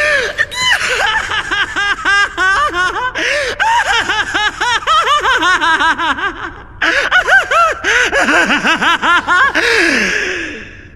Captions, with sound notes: Hahahahahahahahahaha. [The Evil Laugh of Kira]